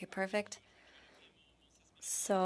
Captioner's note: speaking French